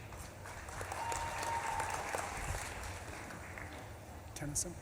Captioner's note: audience claps and cheers